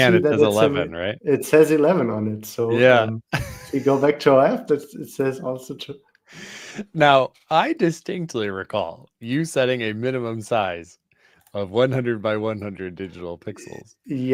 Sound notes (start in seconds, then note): 5.8 laughter